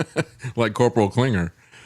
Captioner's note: laughs